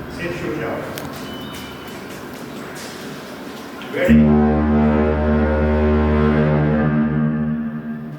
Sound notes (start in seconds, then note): 4.0 foghorn blast